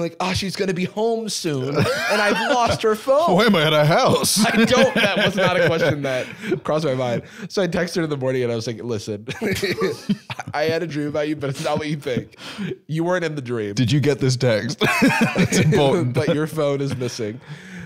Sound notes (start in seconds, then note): 9.3 laughs